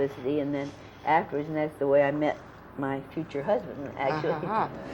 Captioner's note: laughs